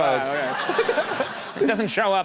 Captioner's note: audience laughs